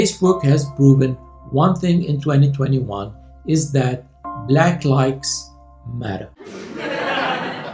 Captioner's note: laughter